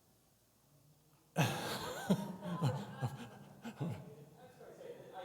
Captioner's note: laughs